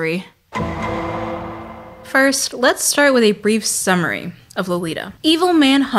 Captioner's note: Law and Order DuN dUn Sound